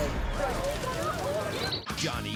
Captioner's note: fire blazing